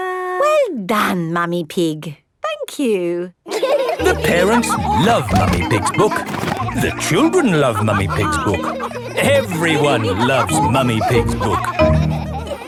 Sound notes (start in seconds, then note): 3.9 all laughing